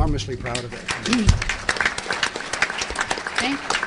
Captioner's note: applause